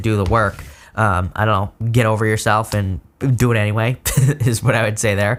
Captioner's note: laughs